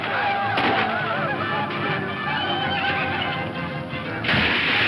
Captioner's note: horse whinnying; upbeat dramatic music